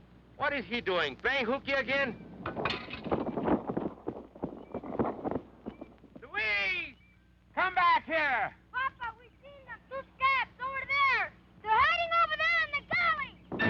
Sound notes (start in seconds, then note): 6.3 shouting